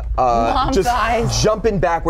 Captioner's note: laughs